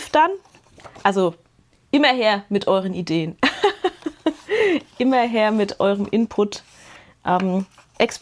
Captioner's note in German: Gelächter